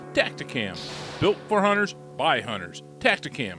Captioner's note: gunshot